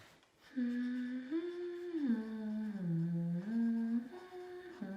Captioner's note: teacher humming